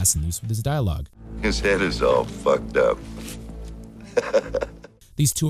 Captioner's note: laughs